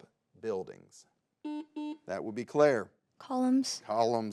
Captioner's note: button blips